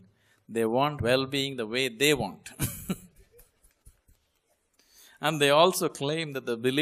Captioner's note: laughs